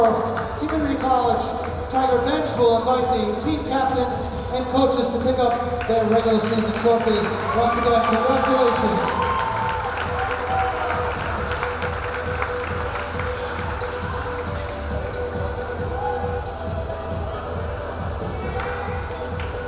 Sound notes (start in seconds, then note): 10.7 cheering; 11.4 clapping